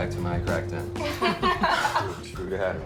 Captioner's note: laughing